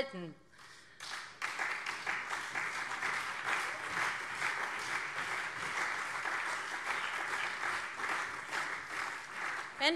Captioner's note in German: Beifall SPD und CDU